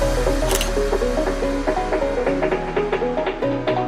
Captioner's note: click